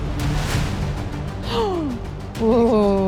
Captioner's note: gasp